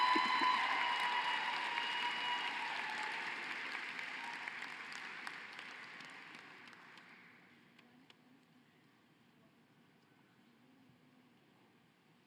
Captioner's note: cheering and applause